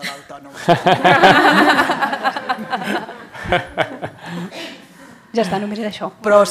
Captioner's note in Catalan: riures